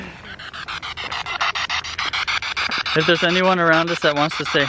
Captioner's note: spirit box sound